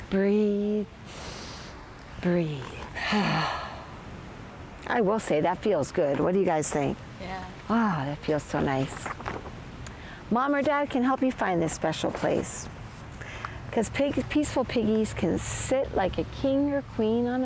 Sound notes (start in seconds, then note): 1.2 inhales; 2.9 exhales